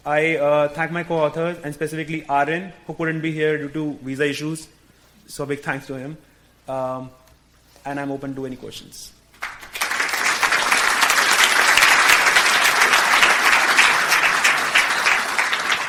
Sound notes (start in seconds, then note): 9.4 audience applause